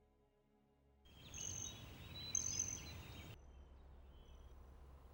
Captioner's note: birds chirping